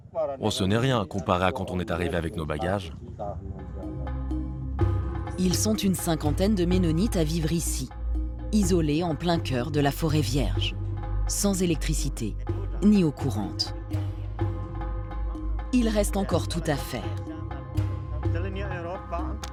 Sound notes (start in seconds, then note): 15.5 foreign spoken audio